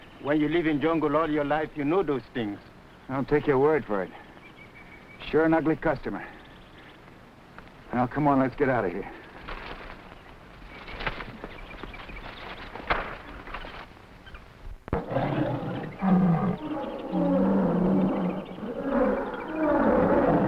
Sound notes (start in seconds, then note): 8.3 plants rustling; 9.6 birds chirping; 14.9 animals chattering; 14.9 lions grunting